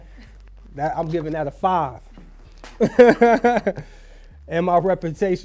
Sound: laughs

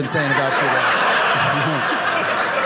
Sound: audience laughing

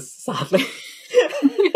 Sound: laughing

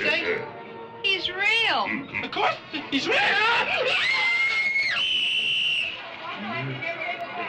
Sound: screams

